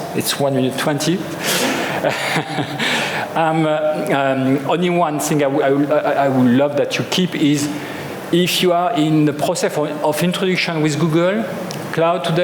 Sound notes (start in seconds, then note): 1.6 chuckles